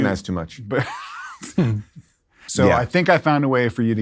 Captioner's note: laughs